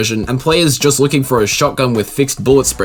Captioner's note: none